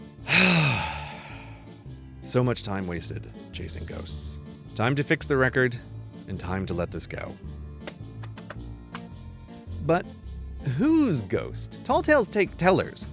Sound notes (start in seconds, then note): 0.2 sighing; 8.1 tapping fingers on desk